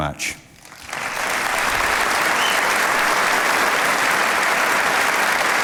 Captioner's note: audience applauding